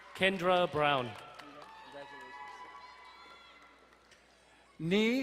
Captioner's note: crowd cheering and applauding